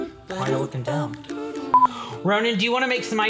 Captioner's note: beep